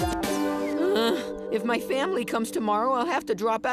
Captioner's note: groaning